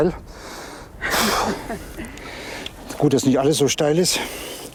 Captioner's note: sniffling